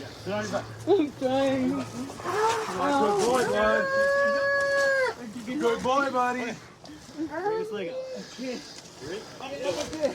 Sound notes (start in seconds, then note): 3.4 wails